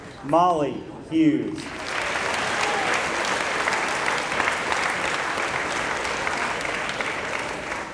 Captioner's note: applause